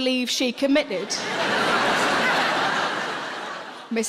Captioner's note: audience laughing